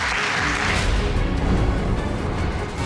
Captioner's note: crowd clapping